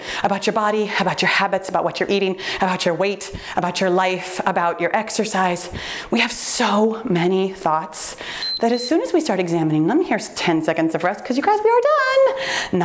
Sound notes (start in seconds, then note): 8.3 timer beeps